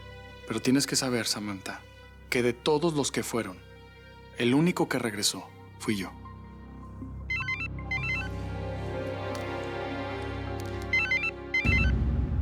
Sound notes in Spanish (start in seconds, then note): 10.6 Suena celular